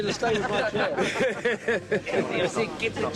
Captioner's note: all laughing